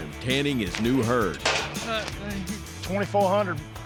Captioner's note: gate clanks